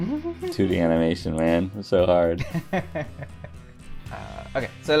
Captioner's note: laughter